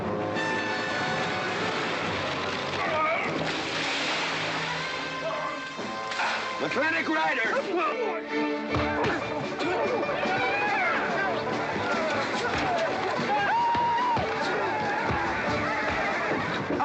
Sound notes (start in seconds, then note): 0.3 dramatic music; 3.3 splash; 8.2 sounds of scuffling & fighting; 8.2 western fight music